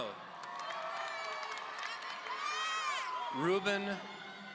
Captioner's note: audience cheering